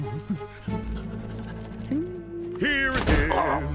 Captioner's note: whimpers